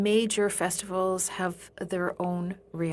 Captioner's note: speaking French